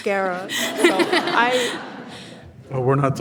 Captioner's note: audience laughs